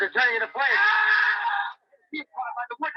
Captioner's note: man screaming